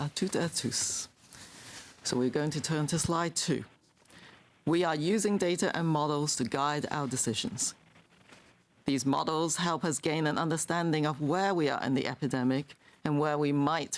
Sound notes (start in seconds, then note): 4.3 speaking french